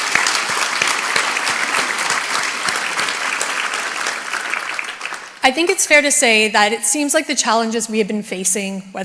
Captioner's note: applause